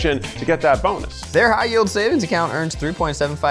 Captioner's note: button clicking